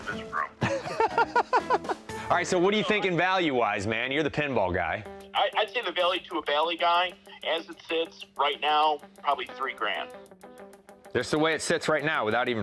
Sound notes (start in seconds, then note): 0.6 chuckles; 6.1 on phone